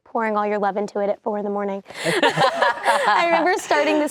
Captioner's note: laughing